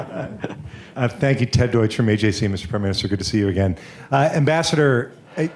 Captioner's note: laughs